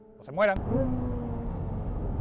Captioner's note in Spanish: Sonido del motor